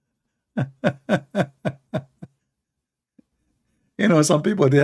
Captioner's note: Ketawa